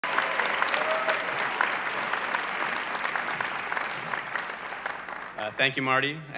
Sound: audience cheering

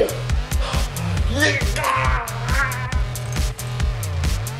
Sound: grunting

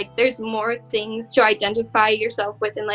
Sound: none

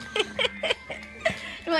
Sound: laughing

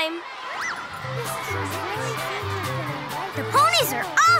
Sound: audience chattering

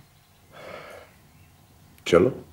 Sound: exhales

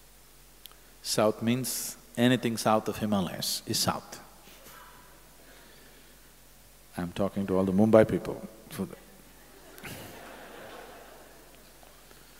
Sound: laughter

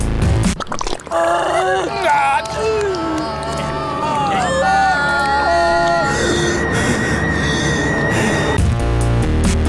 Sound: weird sounds and grunts

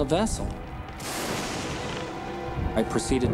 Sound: thunder

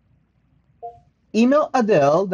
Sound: phone beeps

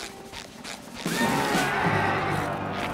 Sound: neighing

